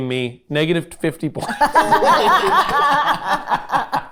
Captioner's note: group laughing; laughing